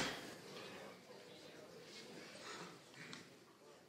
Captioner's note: people chattering